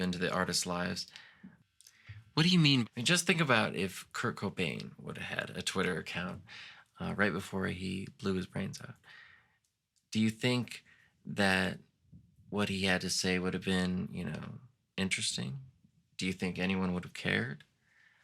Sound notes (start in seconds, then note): none